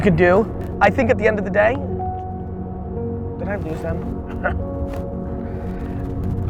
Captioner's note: chuckles